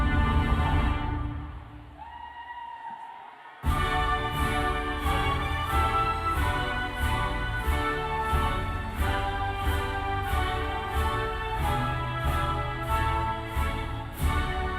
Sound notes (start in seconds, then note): 1.8 cheers and applause